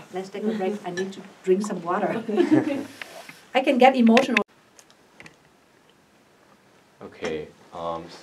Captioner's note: all laugh